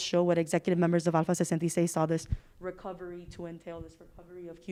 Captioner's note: speaking Spanish